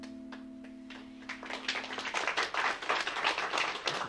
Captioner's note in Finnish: Aplodeja